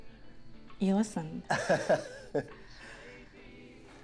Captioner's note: Ben laughs